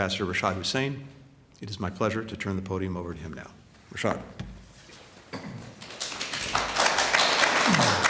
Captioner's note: applause